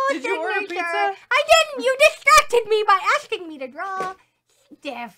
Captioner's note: laughs